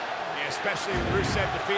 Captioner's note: graphics whooshing